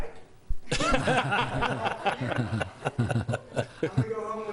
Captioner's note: laughter